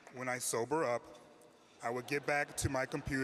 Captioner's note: laughter